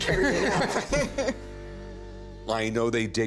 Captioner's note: laughter